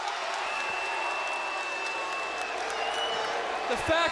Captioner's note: crowd cheering